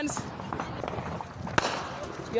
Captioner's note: gunshots